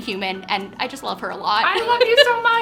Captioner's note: laughs